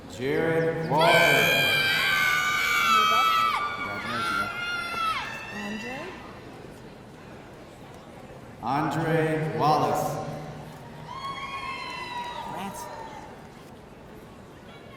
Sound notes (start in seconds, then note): 0.9 audience cheering; 11.1 audience cheering